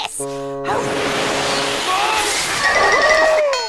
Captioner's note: blowing